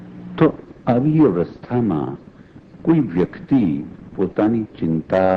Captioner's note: speaking foreign language